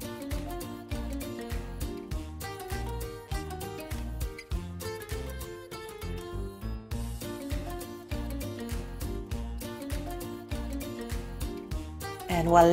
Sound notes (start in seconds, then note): none